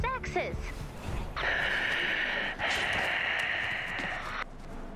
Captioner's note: heavy breathing